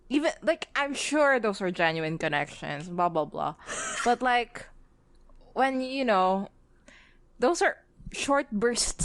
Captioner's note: laughs